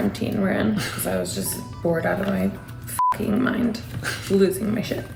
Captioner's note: beep